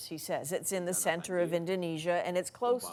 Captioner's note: speaking foreign language